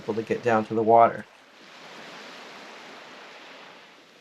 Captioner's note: water sounds